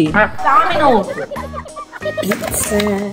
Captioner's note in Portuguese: som de mola; risadas; palmas